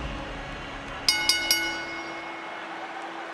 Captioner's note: applause